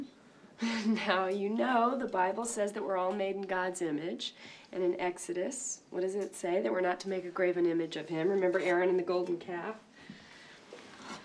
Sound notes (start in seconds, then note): none